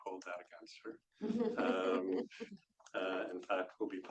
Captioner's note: laughs